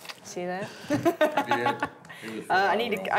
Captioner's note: laughs